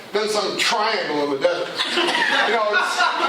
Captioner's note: laughter